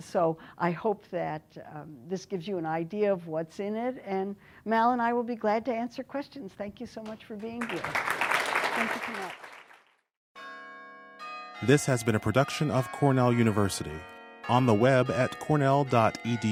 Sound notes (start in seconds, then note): 7.5 applause